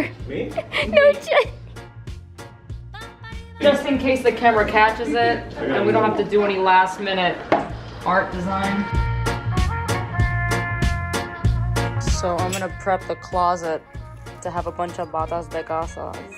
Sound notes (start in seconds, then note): 0.6 laughing; 8.4 upbeat trumpet music